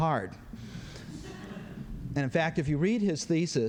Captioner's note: laughter